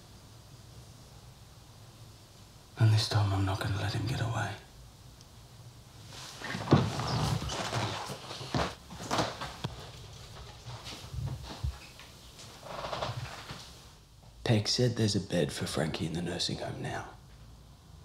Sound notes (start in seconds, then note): none